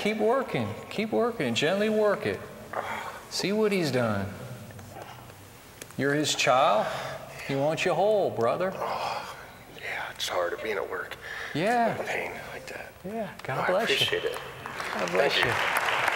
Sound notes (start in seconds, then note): 2.8 exhales of relief; 8.7 exhales; 10.1 whispering